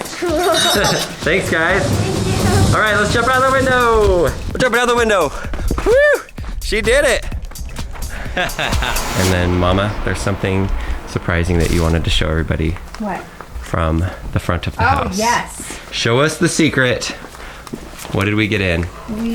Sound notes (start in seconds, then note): 0.1 laughs; 8.4 laughs